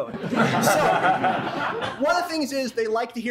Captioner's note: laughter